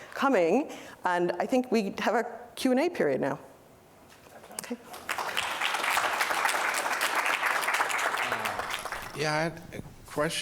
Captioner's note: applause